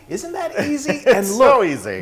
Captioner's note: laugh